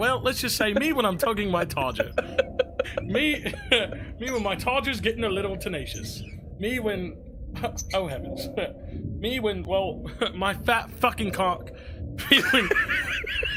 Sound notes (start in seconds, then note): 0.3 laughs; 8.5 laughs; 12.2 laughs